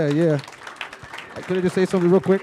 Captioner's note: applause